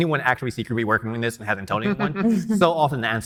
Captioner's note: laughing